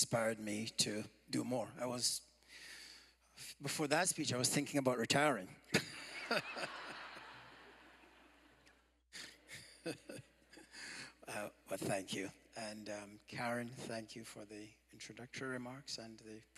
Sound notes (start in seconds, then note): 10.1 laughter